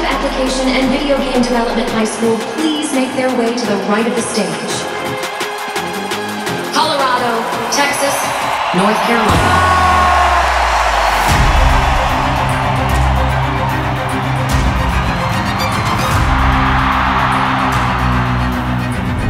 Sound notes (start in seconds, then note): 9.6 crowd cheering; 11.0 tense suspenseful music; 16.4 crowd cheering